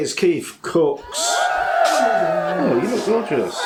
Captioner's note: cheering